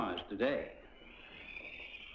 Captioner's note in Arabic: صراخ الأطفال